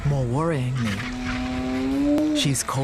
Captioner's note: hyena calling